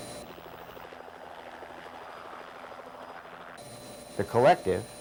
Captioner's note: helicopter rotor noise